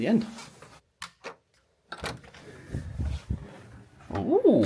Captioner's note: lock clicks